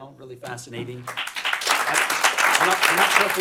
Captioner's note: applause